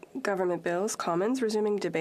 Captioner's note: speaking French